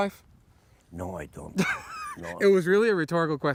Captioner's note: host laughs